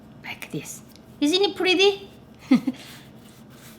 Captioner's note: laughs